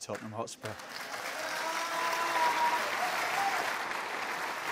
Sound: cheers and applause

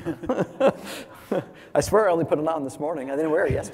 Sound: laugh

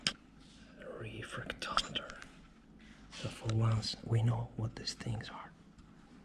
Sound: whispering

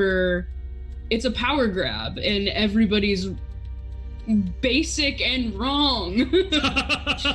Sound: laughs

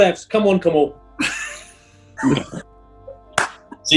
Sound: sniggering; clapping

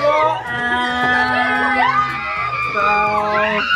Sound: mimics buzzer sound; mom screams

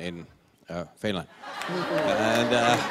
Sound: laughter

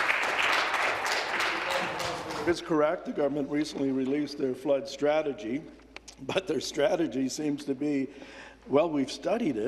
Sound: applause

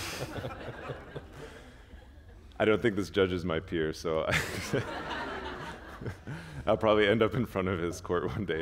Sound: chuckle; laughter

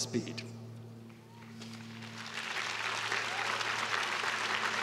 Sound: students cheering

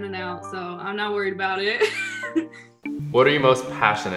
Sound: laughs

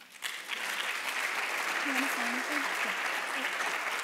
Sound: audience applauding

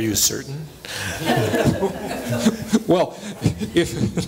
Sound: laughter

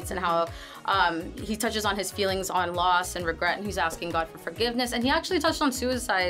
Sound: none

